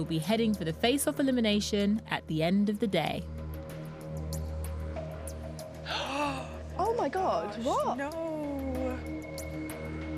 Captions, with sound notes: will be heading for the Face Off elimination at the end of the day. (gasps) Oh, my God! What?! No.